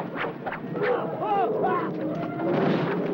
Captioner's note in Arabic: يصرخ الجندي